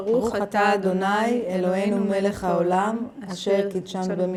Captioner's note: Speaking Hebrew